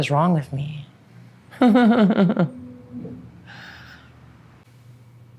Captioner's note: laughs